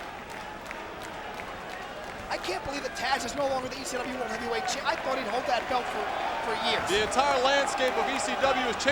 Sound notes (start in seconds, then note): 0.7 crowd clapping